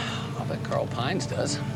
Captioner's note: sighs